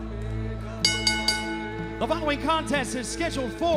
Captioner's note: bell ringing